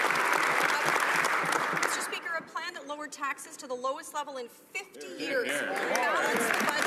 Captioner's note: some Applause